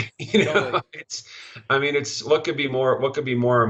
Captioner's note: laughing